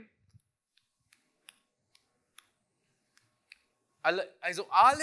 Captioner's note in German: leises Klicken